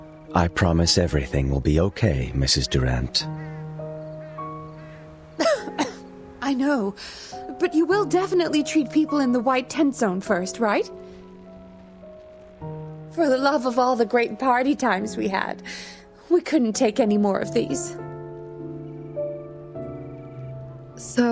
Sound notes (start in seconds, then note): 5.4 cough